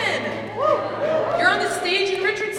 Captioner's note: audience exclaims